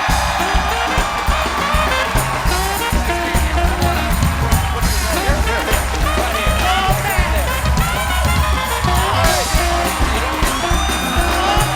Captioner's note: cheers and applause